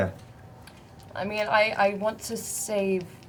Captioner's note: none